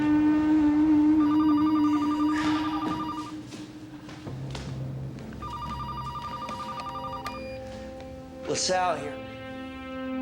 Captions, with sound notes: (phone ringing) - Lasalle here.